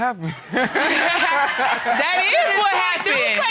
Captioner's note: all laughing